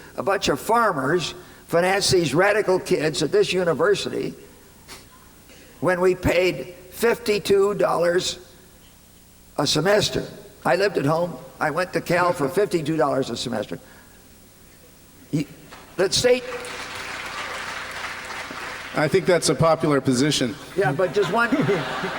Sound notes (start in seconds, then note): 16.3 applause; 20.5 laughter